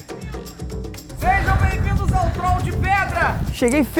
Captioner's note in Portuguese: gritando ao longe